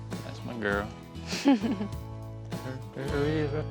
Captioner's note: giggles